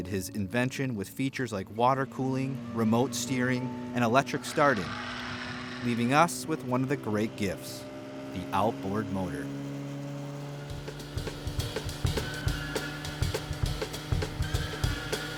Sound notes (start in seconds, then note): 7.1 motor running; 10.6 upbeat music